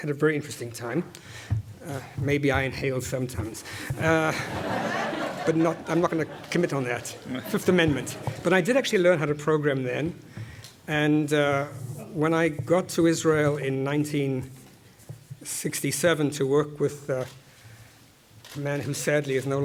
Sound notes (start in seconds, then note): 4.0 laugh